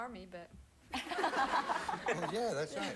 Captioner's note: audience laughing